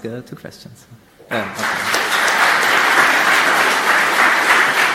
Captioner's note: audience applauding